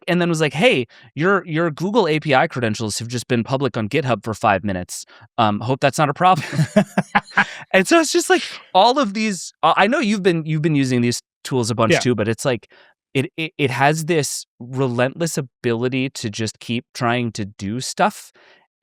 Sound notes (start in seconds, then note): 6.3 laughing